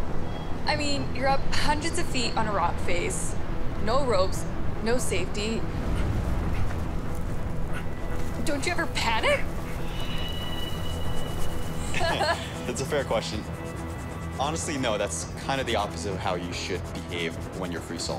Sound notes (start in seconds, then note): 11.9 female laughs; 13.4 callus filing